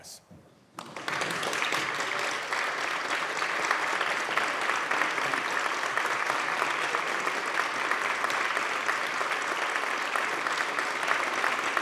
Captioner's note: applause